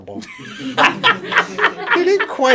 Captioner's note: laughter